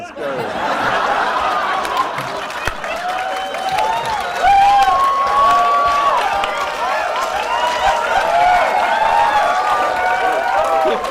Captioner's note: laughter